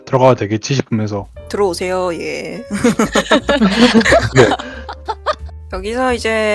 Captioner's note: laugh; laughs